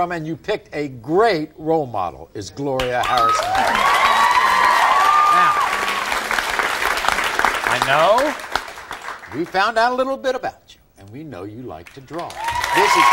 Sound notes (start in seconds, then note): 2.8 audience applauding; 3.0 cheering